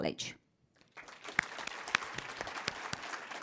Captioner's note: applause